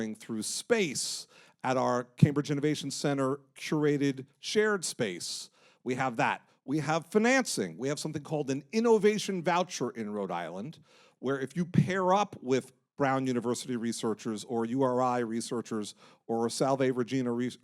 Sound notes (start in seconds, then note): none